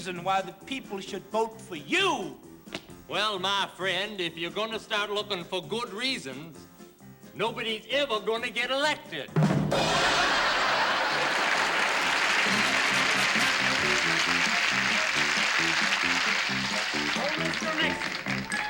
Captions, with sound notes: why the people should vote for you. Well, my friend, if you're gonna start looking for good reasons, nobody's ever gonna get elected. [ Laughter ] [ Applause ] Oh, Mr. Nixon?